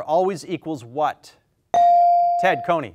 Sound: bell dings

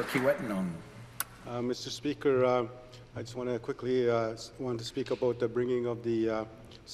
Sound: some applause

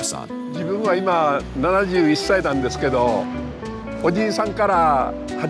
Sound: speaking in Japanese

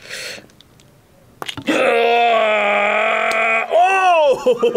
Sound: grunts; laughs

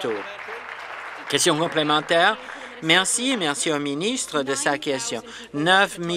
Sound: applause

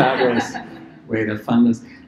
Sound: laughter

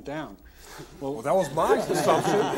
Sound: all laughing

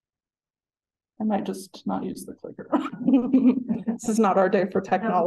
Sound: laughing

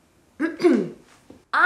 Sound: clears throat

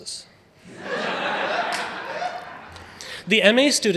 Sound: audience laughing

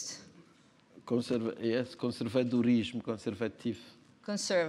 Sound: speaking portuguese

